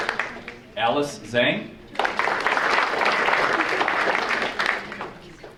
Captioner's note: audience applauding; audience applauding